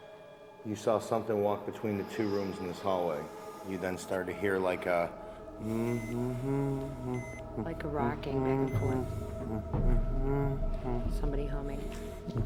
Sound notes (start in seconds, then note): 5.2 humming